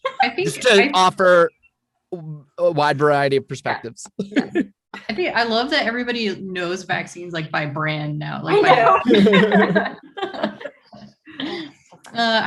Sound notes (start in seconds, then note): 8.6 group laughing